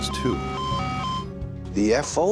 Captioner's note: alarm beeping